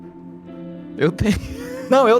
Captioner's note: laughs